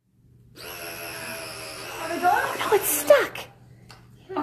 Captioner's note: money gun running